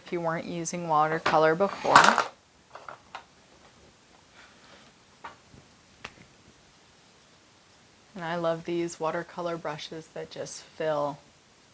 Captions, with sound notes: if you weren't using watercolor before. (markers clattering) I love these watercolor brushes, they just fill...